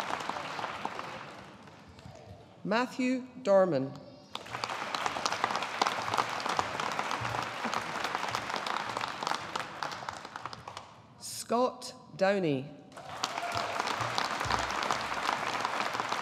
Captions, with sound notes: Matthew Dorman. (AUDIENCE APPLAUDING) Scott Downie. (AUDIENCE APPLAUDING)